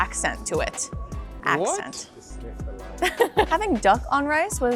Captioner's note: laughing